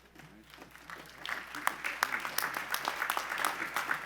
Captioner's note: applause